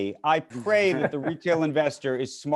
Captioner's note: laughing